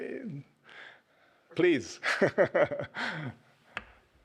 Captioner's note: chuckles